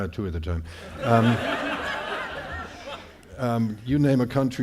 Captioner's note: audience laughing